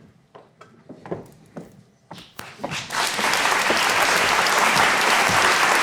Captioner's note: audience applauding; footsteps clomping